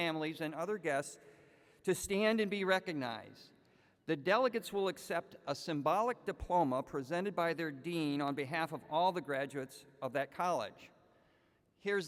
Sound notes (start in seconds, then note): none